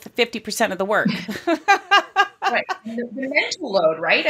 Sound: laughing

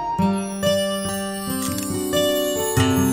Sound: camera shutter clicks

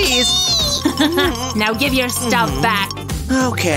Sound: grumbles

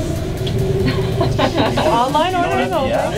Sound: laughter

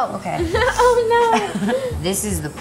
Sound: Debbie laughs; laughs

